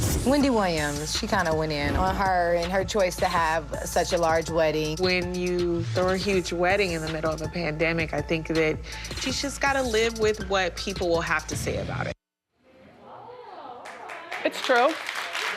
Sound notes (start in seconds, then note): 13.2 audience murmurs; 13.6 audience applauds